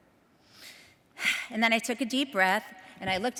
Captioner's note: sighs